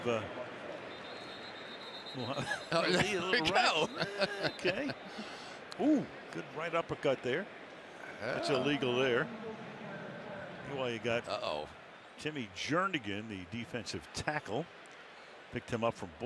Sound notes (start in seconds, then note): 0.7 whistling; 4.3 laughter